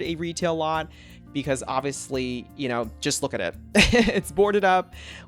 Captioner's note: laughs